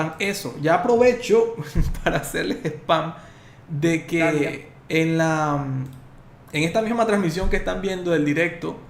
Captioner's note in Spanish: risas